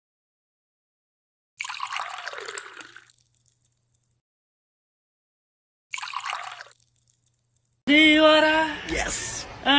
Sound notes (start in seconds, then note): 1.6 sound of water pouring; 5.9 sound of water pouring; 7.9 unknown language